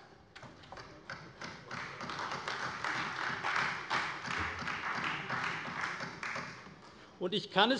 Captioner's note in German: Beifall bei der CDU